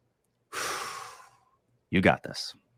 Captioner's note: exhales; inhales